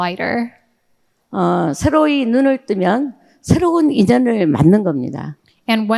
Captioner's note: speaking in foreign language